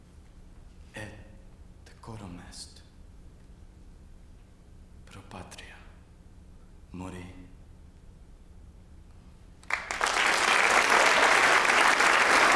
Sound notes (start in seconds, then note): 9.6 applause